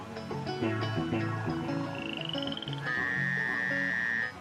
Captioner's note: croaking frogs